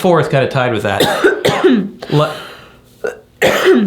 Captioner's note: coughing